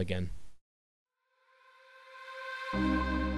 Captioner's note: voiceover